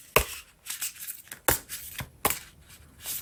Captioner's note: drawing cards